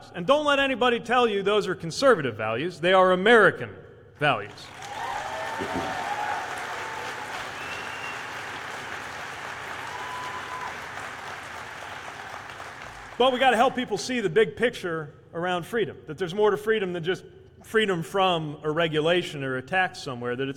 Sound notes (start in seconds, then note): 4.6 cheers/applause